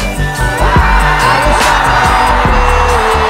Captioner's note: crowd shouting